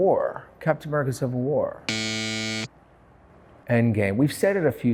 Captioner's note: buzzer buzzing